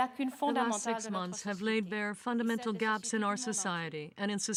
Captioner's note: speaking french